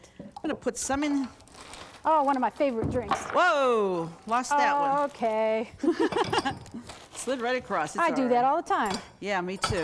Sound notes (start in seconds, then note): 5.8 both chuckle